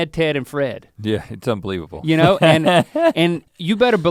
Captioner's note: chuckles